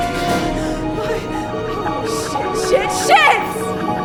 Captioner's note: gasping